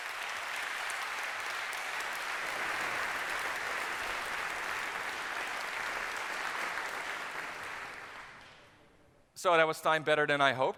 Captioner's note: applause